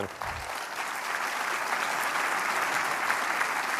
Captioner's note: applause